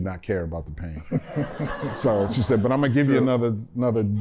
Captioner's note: laughter